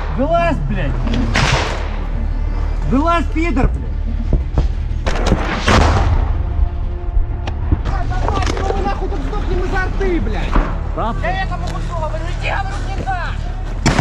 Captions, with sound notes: - Come out already. Crawl out of there, useless shit! [Mortars open up] - We need to hurry, or artillery will wipe us out. - Someone needs to enter the dugout.